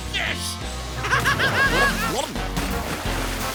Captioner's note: laughing